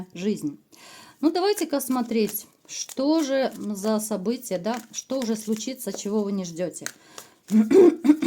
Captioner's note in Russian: откашливается